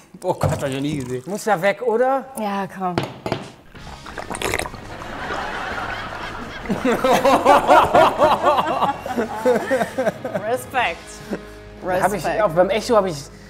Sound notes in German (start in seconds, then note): 4.8 Gelächter; 6.9 Herzliches Lachen